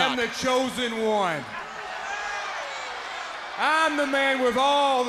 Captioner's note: crowd cheering